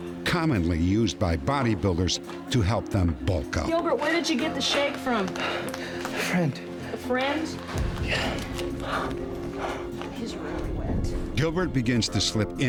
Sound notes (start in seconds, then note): 5.6 wheezing; 8.8 wheezing